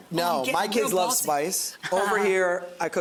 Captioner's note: laughs